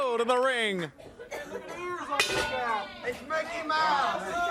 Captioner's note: crowd chatter